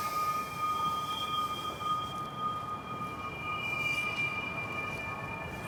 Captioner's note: high pitched humming frequency